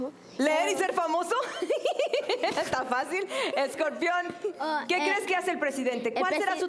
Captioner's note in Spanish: Risas